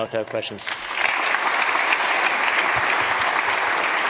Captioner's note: applause